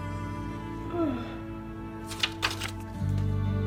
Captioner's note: yawning